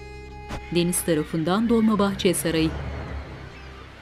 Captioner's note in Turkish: Martı sesi